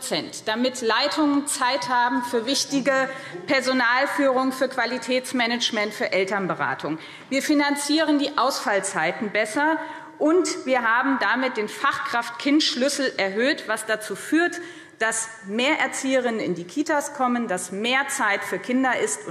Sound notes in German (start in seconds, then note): none